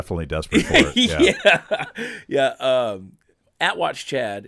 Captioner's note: laughing